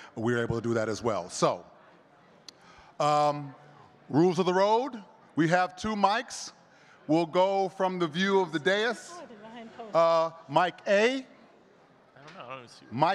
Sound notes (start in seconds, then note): 9.4 speaking faintly